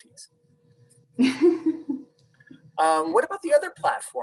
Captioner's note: chuckles softly